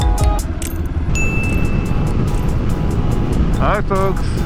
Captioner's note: ding